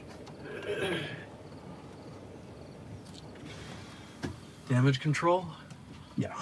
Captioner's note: clearing throat